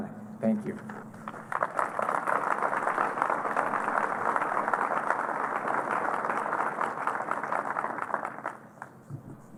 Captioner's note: applause